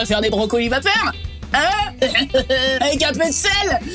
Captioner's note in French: rire gras